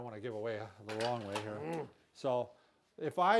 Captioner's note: grunting